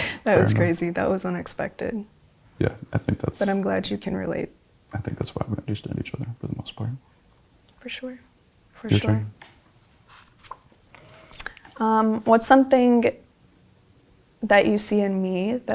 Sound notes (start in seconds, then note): 0.4 both laughing; 10.0 paper rustling